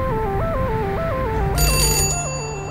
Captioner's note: doorbell